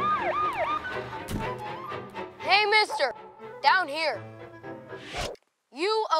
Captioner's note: sirens